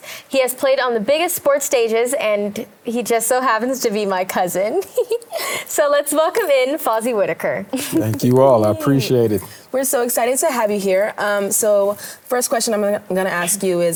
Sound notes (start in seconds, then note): 4.7 giggles